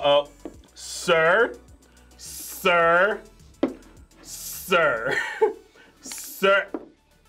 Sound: laughs

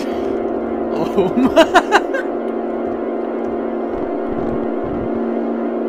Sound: laughing

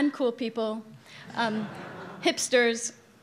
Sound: audience laughing loudly

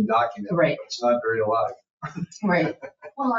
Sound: chuckles

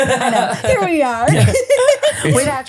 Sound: Tana laughing

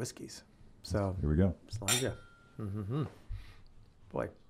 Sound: glasses clinking

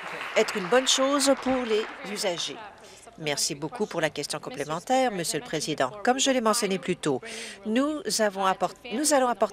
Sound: applause

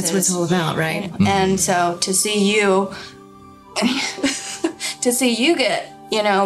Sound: laughing

